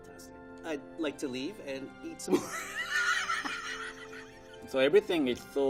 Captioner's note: laughing